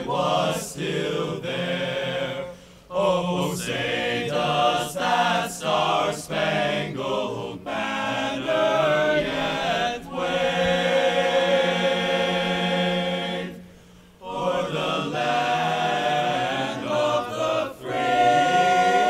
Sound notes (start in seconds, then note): none